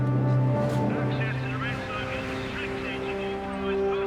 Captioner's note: man on PA